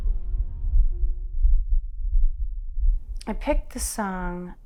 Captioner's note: heartbeat pounding